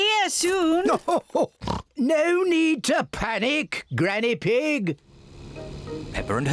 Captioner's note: oinks